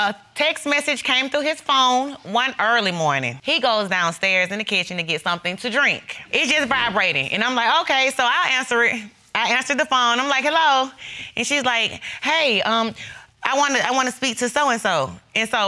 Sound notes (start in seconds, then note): none